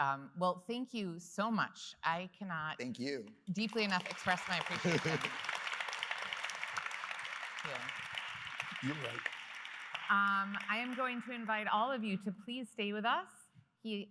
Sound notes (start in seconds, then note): 5.8 applause